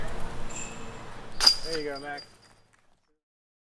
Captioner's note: the sound of chains